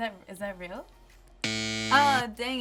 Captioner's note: buzzes